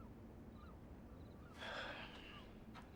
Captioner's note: sigh